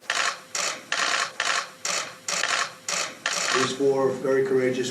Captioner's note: camera clicking